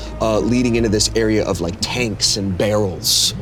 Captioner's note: none